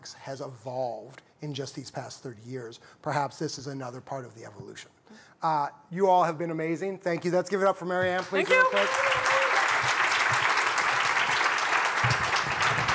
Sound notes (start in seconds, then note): 8.1 applause